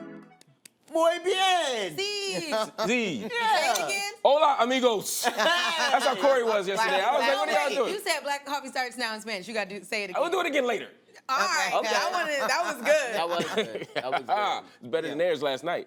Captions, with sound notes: -Muy bien. -Sí. -Sí. -Say it again. -Hola, amigos. -(laughter) That's how Cory was yesterday. I was like, -"What are y'all doing?" -You said "Black Coffee starts now" in Spanish. You got to say it again. -I'll do it again later. -All right. -That was good. -That was good. (laughs) It was better than theirs last night.